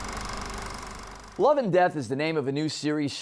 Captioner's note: film projector whirring